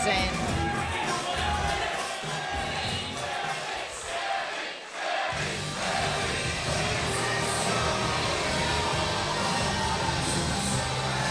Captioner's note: crowd cheering